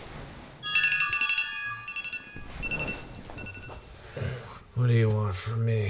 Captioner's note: smart notification chimes